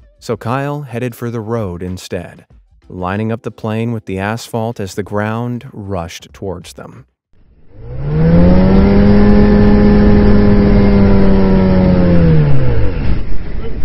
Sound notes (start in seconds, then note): 7.4 plane engine revving